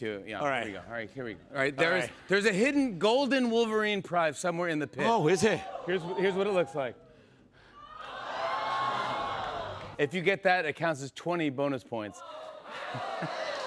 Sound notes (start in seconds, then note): 7.9 cheers and applause